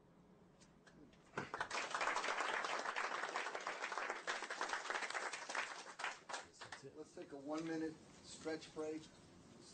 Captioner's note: applause